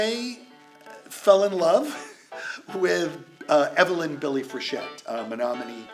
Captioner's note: laughs